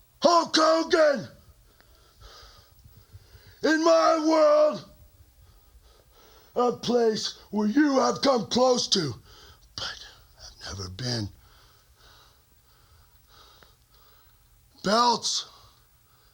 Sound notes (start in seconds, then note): 11.4 breathes heavily